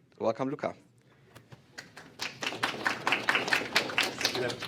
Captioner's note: applause